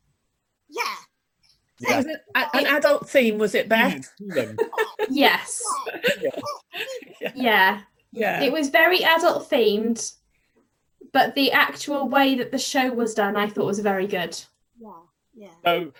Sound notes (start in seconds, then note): 4.3 laughter